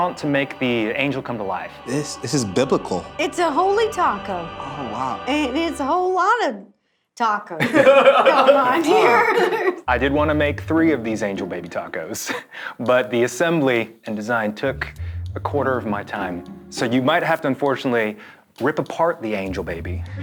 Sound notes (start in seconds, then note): 7.6 everyone laughing; 7.6 laughs